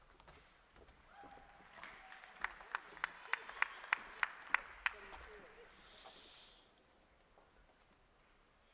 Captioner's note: applause